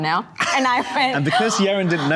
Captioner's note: gasping